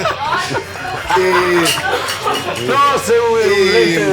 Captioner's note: laughs